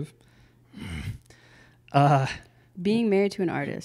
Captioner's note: groans